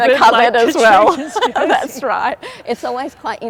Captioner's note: laughs